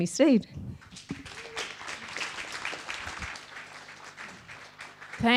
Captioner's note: audience clapping